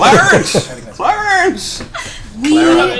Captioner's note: all laugh; Jimmy Stewart voice